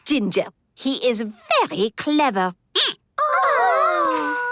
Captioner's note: squeaking